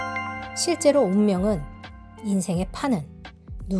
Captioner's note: bell rings